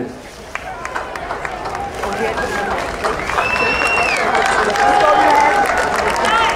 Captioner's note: audience cheering and applauding